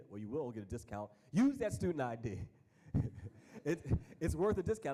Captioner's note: chuckles